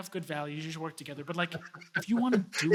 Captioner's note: laughs